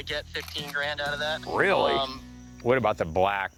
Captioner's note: on phone